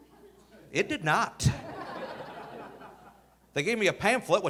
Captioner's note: audience laughing